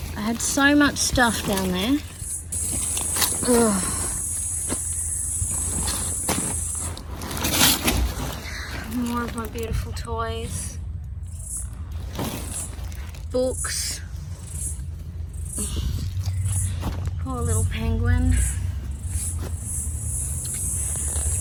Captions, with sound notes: I had so much stuff down there. Ugh. [discarded objects crash and bang] More of my beautiful toys. Books. Poor little penguin.